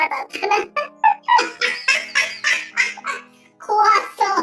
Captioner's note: laughs